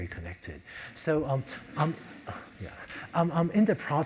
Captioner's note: laugh